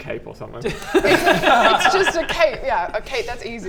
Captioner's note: economical laughter